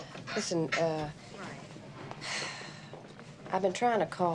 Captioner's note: Wanda sighs